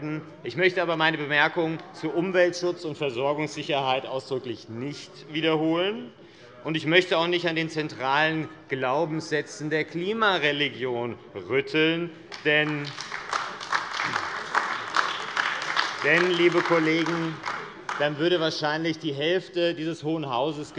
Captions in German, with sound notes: Ich möchte aber meine Bemerkung zu Umweltschutz und Versorgungssicherheit ausdrücklich nicht wiederholen, und ich möchte auch nicht an den zentralen Glaubenssätzen der Klimareligion rütteln; [Beifall AfD] denn dann würde wahrscheinlich die Hälfte dieses Hohen Hauses